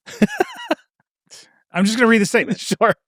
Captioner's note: laughing